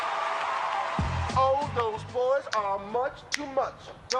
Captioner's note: applause